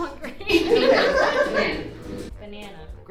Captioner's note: audience laughing